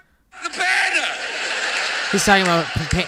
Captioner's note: television audience laughing